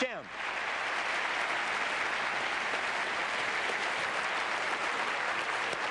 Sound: applause

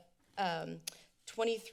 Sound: clicks tongue

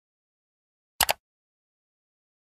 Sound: mouse click sound effect

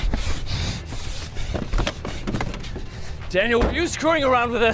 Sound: Caleb panting

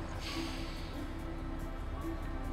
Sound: exhales

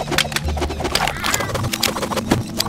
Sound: ocelot Meow

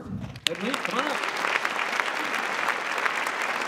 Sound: applause

